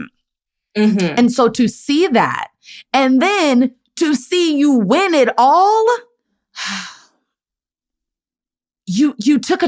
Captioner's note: sighs